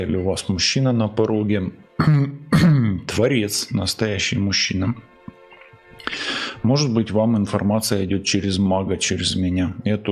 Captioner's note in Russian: откашливается